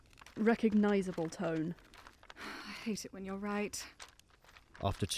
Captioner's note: sigh